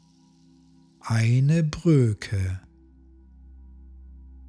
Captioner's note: german